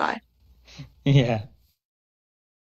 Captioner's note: laughs nervously